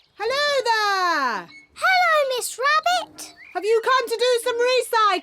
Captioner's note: none